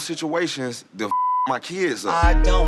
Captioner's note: beeping